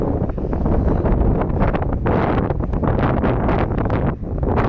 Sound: wind gusting

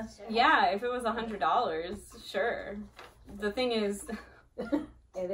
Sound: laughs

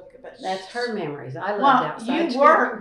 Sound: laughs

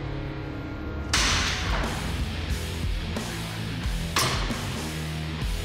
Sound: blade impact sounds

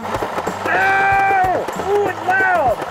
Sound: screams

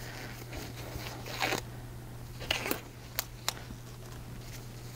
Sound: gloves squeaking

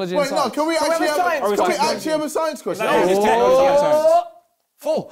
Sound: crowd mumbling

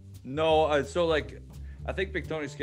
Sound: none

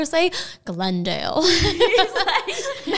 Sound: laughing

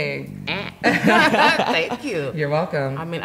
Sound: laughs

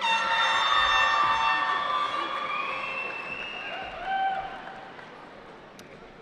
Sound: cheering

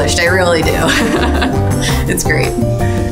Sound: laughs

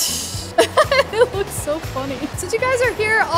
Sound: laughs

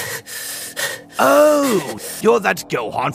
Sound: hyperventilating

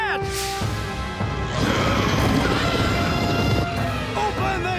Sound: rumbling, elephant trumpeting

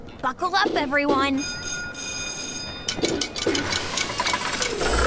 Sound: school bell ringing

